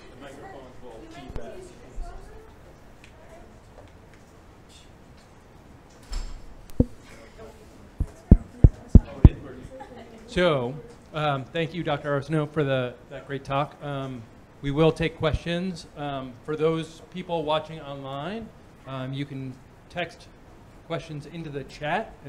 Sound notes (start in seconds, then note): 2.6 away from microphone